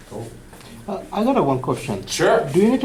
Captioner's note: voiceover